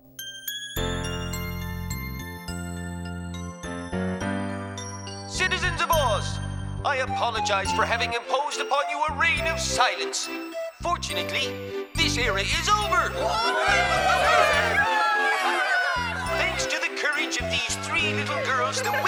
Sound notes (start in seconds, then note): 0.6 upbeat music; 13.1 cheering